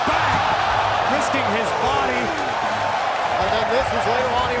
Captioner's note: crowd cheering